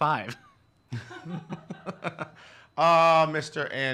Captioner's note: laughs